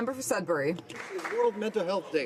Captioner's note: some Applause